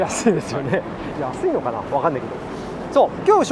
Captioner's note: laughs